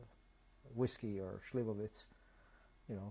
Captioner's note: non-english